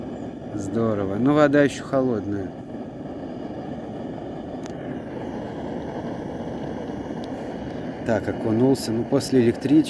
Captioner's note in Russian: шипение газа